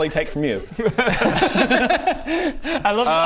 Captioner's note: fair enough giggles